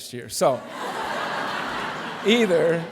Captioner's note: laughter